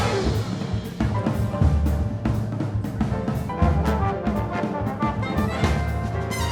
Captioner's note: energetic jazzy music continues; audience chatter with jazzy music